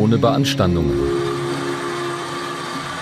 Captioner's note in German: Rauschen